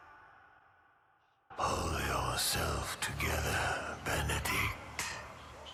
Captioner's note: demonic Voice